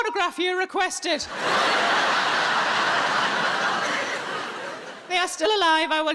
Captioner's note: audience laughing